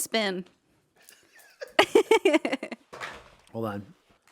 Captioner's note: laughing